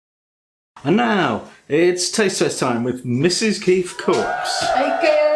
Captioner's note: cheering